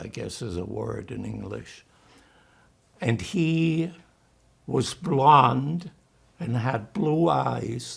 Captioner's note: german